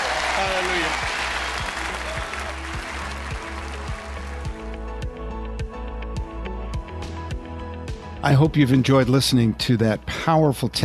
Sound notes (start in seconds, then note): 1.5 audience applause; 4.0 ambient music